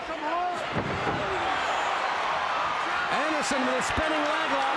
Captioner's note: crowd cheers